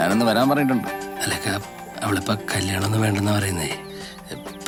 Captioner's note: stammering